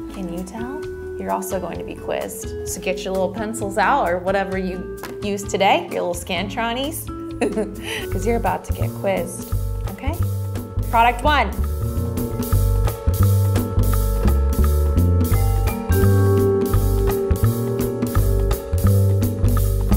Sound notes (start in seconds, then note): 7.4 chuckles